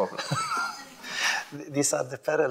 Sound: laughing

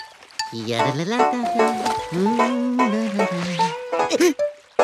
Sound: Bugs humming

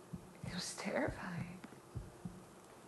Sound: whispers

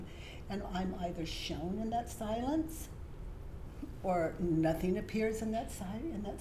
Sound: none

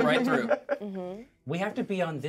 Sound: speaker laughs

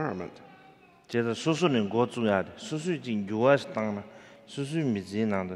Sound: speaking in foreign language

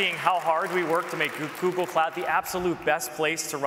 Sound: applause

